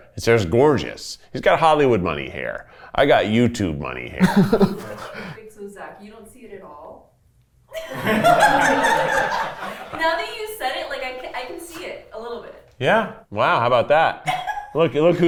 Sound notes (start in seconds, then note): 4.2 laughs; 7.8 everyone laughs